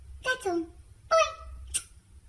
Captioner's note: smooch